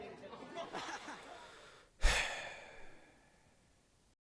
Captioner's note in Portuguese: Suspiro longo